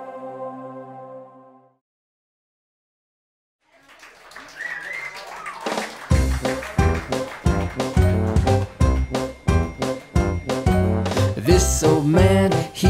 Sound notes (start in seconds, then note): 3.6 audience applauding; 4.5 fan whistling; 6.1 upbeat pop music